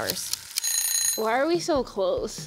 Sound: timer Ticking; timer Ringing

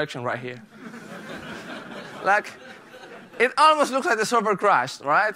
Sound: laughter

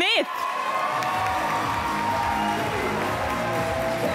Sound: audience applause

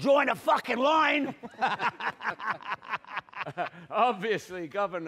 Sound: they both laugh

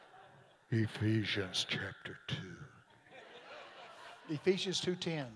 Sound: congregation laughing

